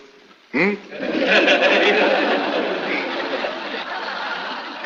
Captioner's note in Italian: risate